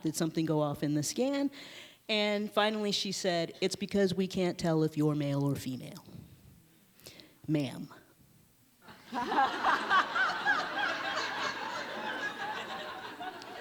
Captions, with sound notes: Did something go off in the scan? And finally she said, it's because we can't tell if you are male or female. Ma'am. (audience laughs)